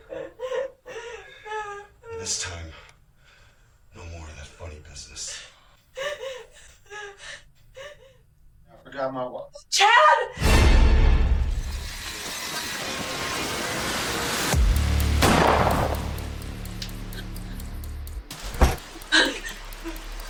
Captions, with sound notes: - And this time, no more of that funny business. - I forgot my wallet. - Chad. (tense instrumental music) (gun firing)